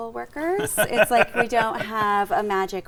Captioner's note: laughing